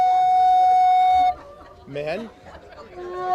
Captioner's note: audience chatters; flute music